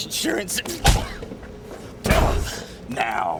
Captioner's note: blow lands; slamming